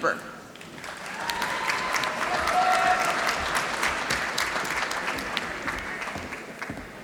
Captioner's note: applause